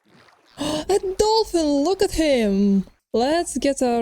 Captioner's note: gasp